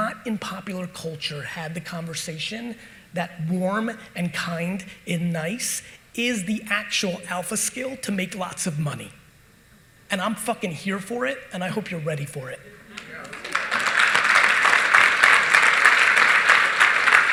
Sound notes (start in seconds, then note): 12.9 audience applauding